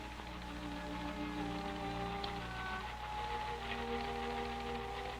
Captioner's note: ticker tape clacking